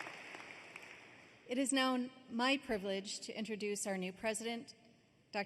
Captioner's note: applause